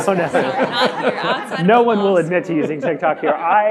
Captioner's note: audience laughing